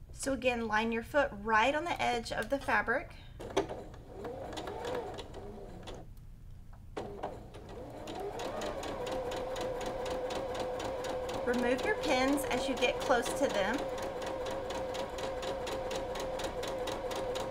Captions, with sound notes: So again, line your foot right on the edge of the fabric. (machine whirs) Remove your pins as you get close to them. (machine whirs)